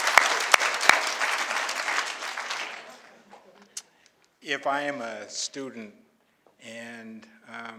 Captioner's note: applause